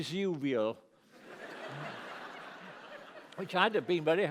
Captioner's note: laughter